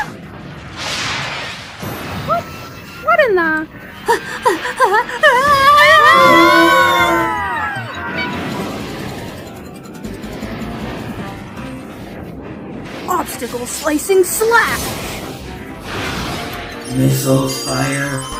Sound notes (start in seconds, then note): 4.2 Amy pants, into a yell; 5.4 all yell